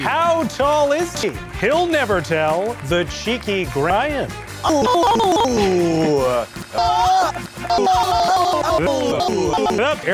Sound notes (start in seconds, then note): 5.1 glitchy stuttering; 7.3 reversed